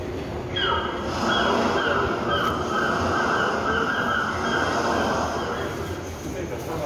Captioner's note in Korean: 갈매기, 파도 소리